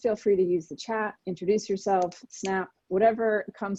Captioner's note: snapping fingers